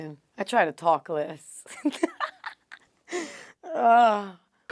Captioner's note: laugh